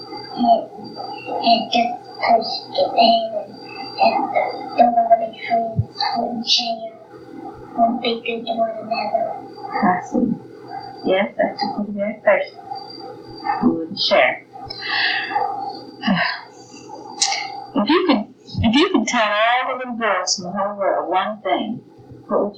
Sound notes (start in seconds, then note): 15.9 sigh